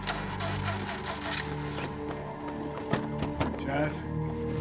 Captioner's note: car ignition rumbling